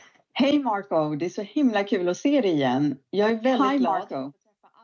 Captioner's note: speaking Swedish